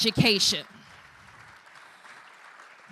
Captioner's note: applause